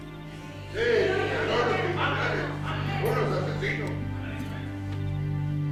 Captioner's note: group speaking in foreign language